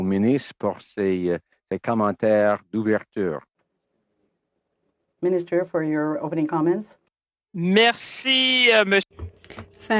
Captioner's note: speaking French